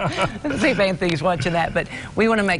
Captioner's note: laughing